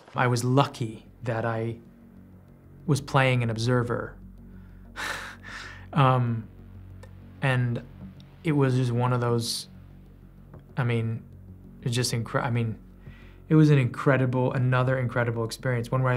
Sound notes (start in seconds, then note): 4.9 scoffs